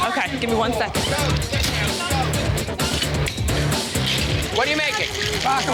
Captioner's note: chatter